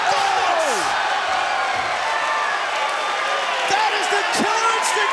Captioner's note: crowd cheers